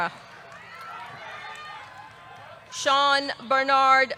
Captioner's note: audience cheering